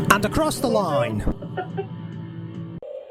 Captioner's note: laughs